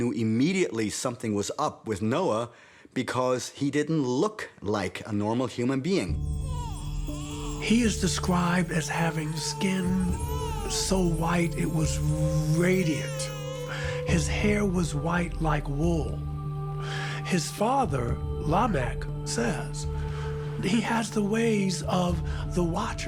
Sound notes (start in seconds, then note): 5.5 baby whimpers